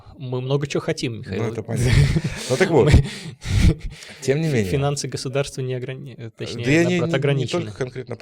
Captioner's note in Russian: смех